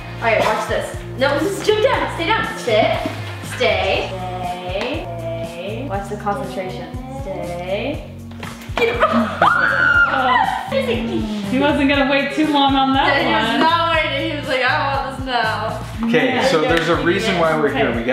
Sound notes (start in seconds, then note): 9.2 squeals